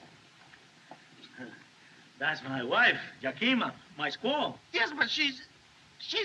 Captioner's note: chuckles